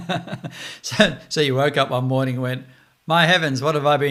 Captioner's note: laughs